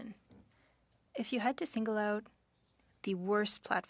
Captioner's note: speaking French